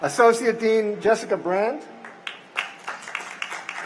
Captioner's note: cheers and applause